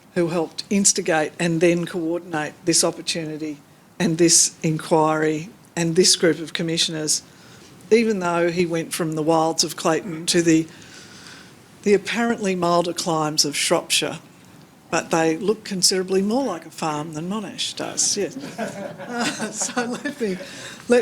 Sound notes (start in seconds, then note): 18.3 laughs; 18.3 audience laughing